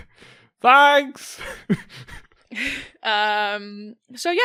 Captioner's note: chuckles